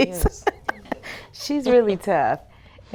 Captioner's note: laughing lightly